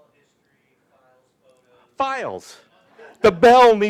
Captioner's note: murmurs